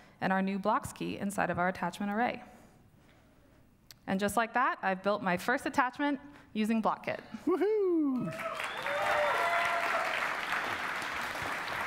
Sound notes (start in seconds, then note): 8.2 applause